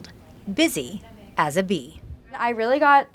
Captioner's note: both chattering